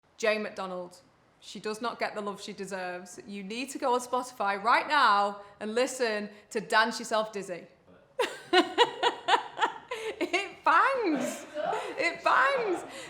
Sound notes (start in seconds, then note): 8.2 laughing